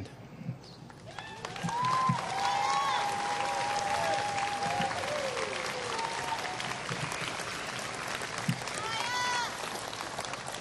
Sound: applause

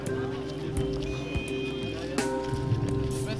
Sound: car horn beeps

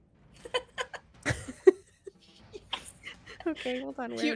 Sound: laugh

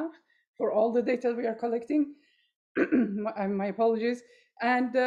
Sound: clears throat

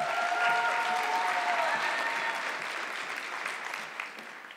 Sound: audience clapping

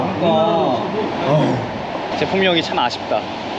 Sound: roar

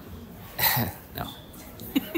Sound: chuckling

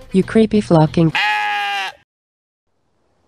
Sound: krygyzstan Sheep Groans

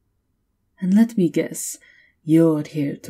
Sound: sarcastic

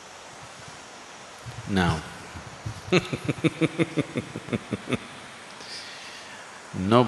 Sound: laughs

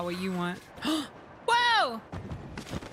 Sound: gasp

